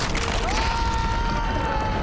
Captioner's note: shout